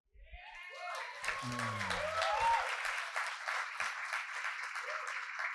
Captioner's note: audience applauding and cheering